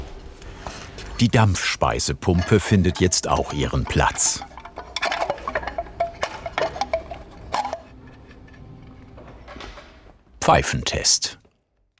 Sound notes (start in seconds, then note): 4.3 metallic sounds